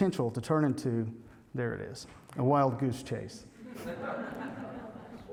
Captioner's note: laughter